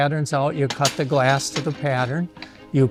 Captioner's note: glass snapping